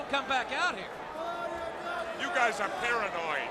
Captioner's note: crowd chatter